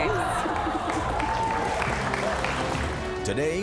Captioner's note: applause